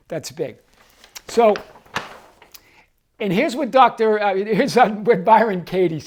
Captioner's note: paper crinkling